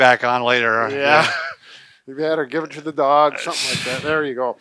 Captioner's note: chuckles